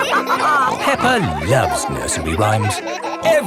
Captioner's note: all laughing